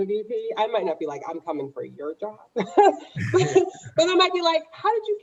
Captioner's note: laughs